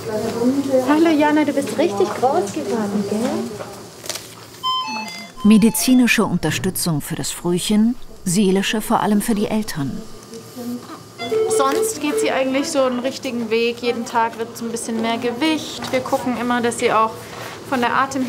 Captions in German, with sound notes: Hallo Jana, du bist richtig groß geworden, gell? (Maschinensignalton) Medizinische Unterstützung für das Frühchen, seelische vor allem für die Eltern. Sonst geht sie eigentlich den richtigen Weg. Jeden Tag wird es ein bisschen mehr Gewicht. Wir gucken immer, dass sie von der Atemhilfe